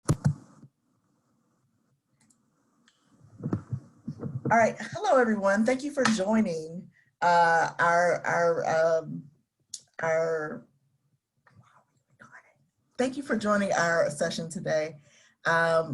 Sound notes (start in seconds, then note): 0.3 microphone thudding